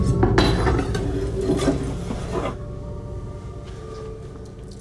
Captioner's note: knife scraping